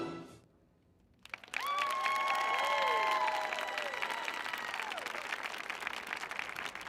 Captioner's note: audience applauding; audience cheering